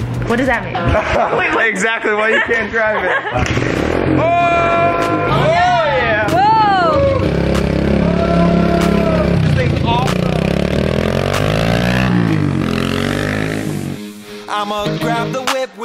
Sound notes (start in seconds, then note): 0.8 laughs; 3.6 bike engine revs; 8.5 bike engine vrooming; 11.3 bike engine vrooming